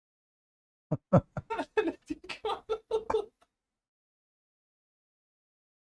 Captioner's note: Ketawa